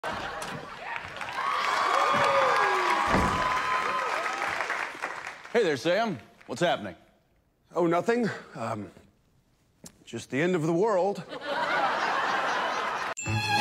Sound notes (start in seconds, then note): 0.6 studio audience clapping and wooing